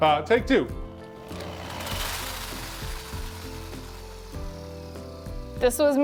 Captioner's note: power drill whirring